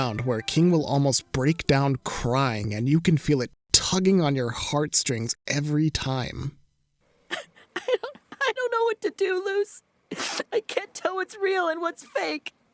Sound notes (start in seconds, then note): 7.3 crying; 10.1 sniffles